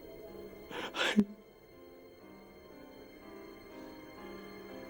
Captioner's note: Matthew sobs